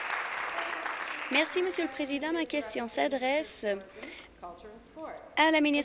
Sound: applause

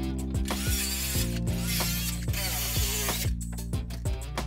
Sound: sander buzzes

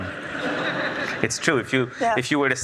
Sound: audience laughs

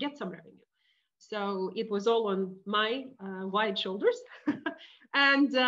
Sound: laughing

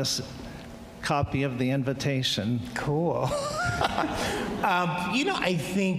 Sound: laughs

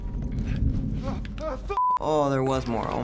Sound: gasps and cusses

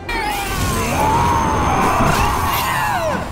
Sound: ahhhhhhhh!; hyarrrrgh!; smack!

